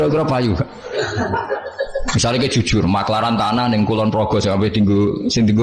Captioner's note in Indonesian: tertawa